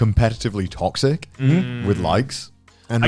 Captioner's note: affirmative murmuring